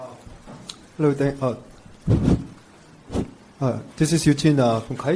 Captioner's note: man speaks foreign language